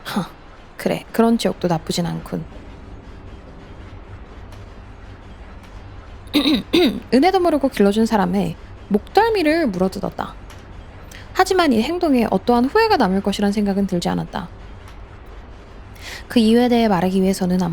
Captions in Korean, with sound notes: 하 그래 지역도 나쁘진 않군. [기침][목을 가다듬음] 은혜도 모르고 길러 준 사람에 목덜미를 물어뜯었다. 하지만이 행동에 어떠한 후회가 남을 것이란 생각은 들지 않았다. 그 이유에 대해 말하기 위해서는